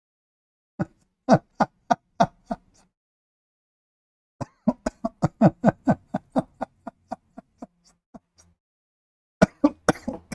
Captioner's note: Ketawa